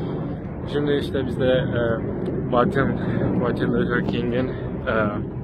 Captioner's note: says with the American accent